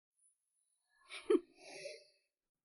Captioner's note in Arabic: تهكم